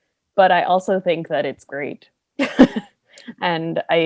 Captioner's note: laughter